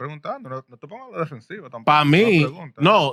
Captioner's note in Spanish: Hablando en idioma extranjero